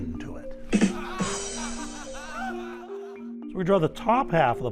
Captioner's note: drum thumps; audience laughing